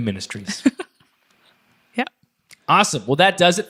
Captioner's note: chuckles